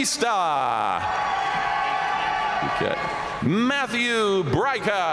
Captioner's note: audience cheering and applauding